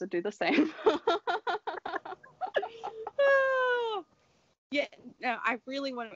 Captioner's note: laughter